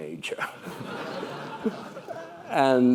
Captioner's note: laugh